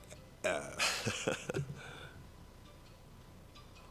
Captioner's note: chuckles